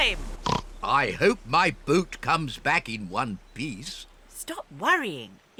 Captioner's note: oinks